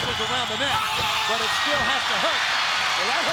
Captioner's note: Lex screaming; crowd cheering